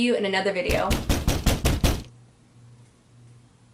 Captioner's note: loud banging on door